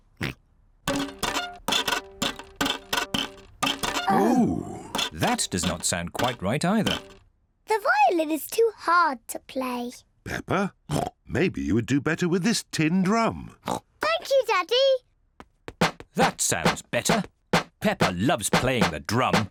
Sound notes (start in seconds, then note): 13.0 snorts; 15.7 drum beating